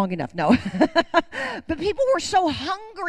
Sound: laughs

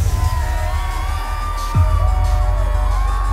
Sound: crowd cheers

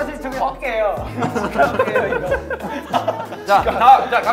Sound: other members laugh at joke

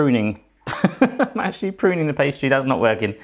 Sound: laughing

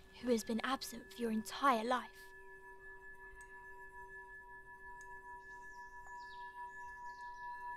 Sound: ringing

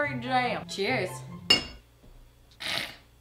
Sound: glasses clinking; hacking sound

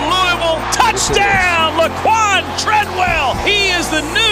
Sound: voiceover

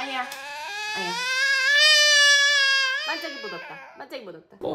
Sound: bursting tears

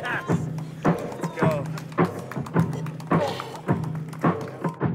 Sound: vomiting

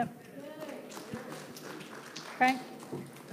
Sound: audience claps

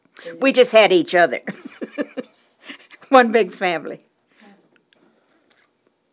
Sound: laughter

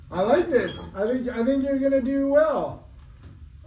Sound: none

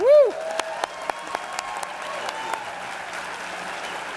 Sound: applause

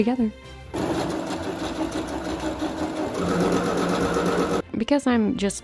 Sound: sewing machine racing

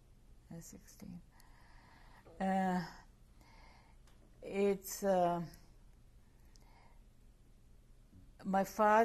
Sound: pauses for 3 seconds

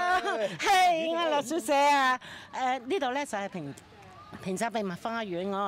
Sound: speaking in foreign language

